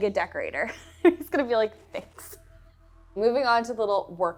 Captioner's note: laughs